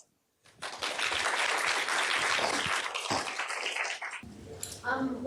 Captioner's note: applause